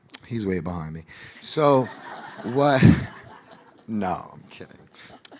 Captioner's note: audience laughing